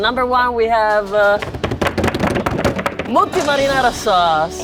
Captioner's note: judges drum rolling table